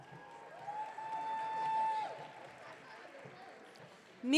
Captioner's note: audience cheering